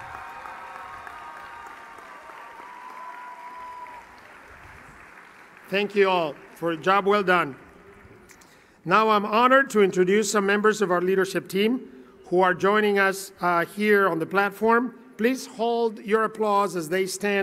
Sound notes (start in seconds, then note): 0.0 applause; 4.1 cheering